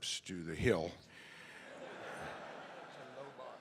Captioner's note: audience laughing